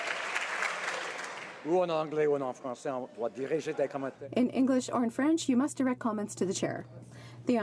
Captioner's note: some Applause